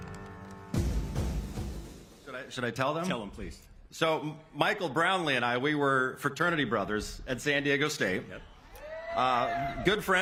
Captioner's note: cheers and applause